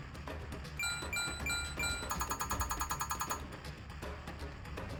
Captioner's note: literally sound effects from Street Fighter V